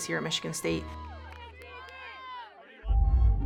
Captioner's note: cheering; ominous orchestral music